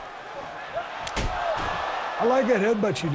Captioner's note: heads thud